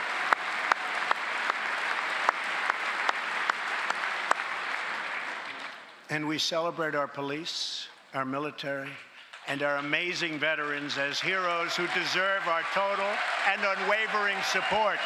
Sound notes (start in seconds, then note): 0.0 cheers and applause; 2.0 applause